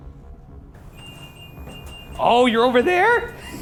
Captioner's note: REM pod beeping